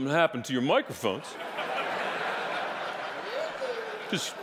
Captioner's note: audience laughing